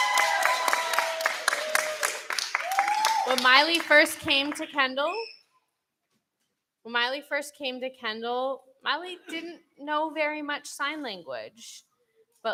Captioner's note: applause